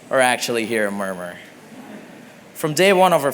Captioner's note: laughter